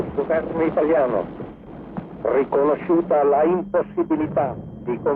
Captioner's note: man speaking in Italian